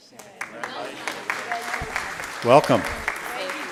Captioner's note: applauding